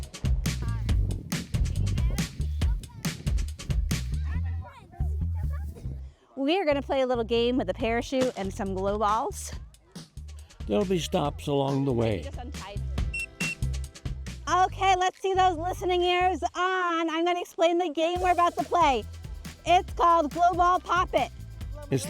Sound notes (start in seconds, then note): 13.1 whistle blows twice